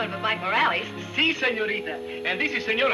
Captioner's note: speaking in foreign language